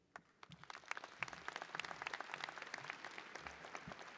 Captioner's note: audience applauding